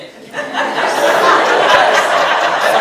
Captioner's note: audience laughs